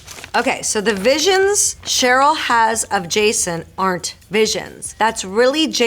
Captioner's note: Marisol reading fan letter aloud